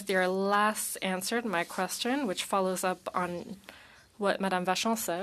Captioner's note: speaking French